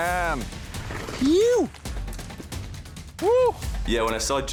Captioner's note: cheers